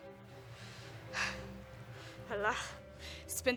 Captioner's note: sighs